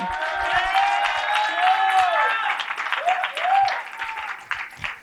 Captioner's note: cheering and applause